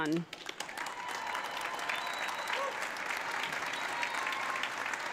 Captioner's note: audience applauding